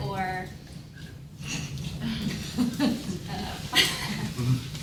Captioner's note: laughter